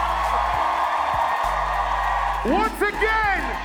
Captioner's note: crowd cheers loudly